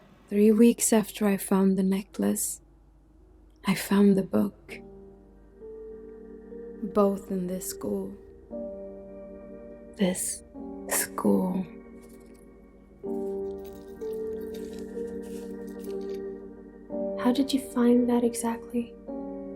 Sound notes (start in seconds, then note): 4.9 soft dramatic music; 13.2 necklace jangling